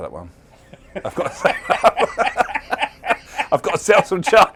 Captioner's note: laughter